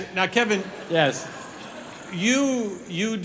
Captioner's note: audience chuckling